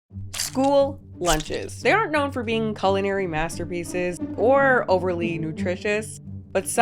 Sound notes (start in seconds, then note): 0.3 person chomps